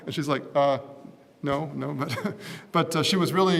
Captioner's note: laugh